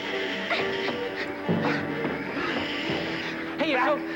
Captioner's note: Holly panting; intense music